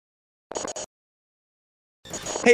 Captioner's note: static